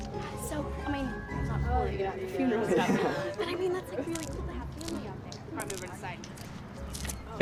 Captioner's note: chattering